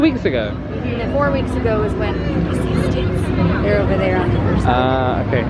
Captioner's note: whispers